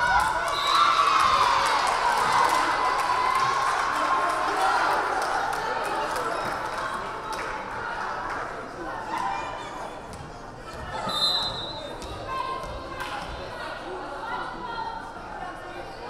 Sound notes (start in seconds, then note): 0.0 crowd cheering; 0.5 whistle blaring; 11.0 whistle blaring